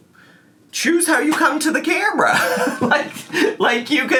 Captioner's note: chuckles